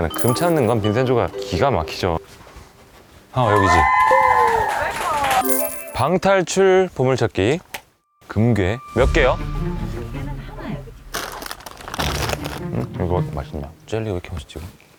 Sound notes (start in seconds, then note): 10.4 fumbling